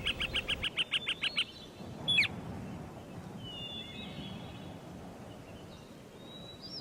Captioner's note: birds chirping